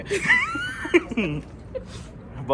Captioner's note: both laughs